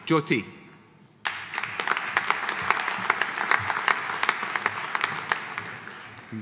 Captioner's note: audience applauding